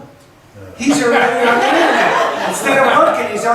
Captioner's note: laughs